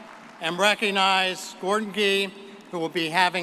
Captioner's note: audience applauding